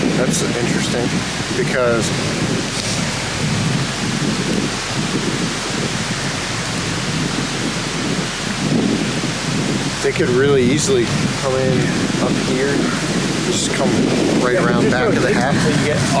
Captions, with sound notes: That's interesting because (wind gusting continues) they could really easily come in up here, just come right around back of the cabin.